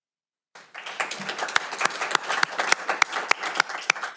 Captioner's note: audience applauding